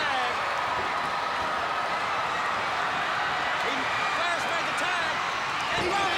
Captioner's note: crowd chatter